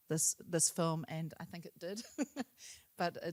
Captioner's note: chuckles